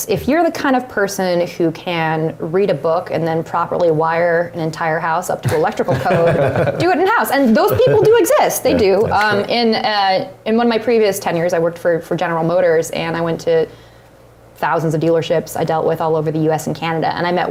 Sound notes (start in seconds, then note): 5.4 laugh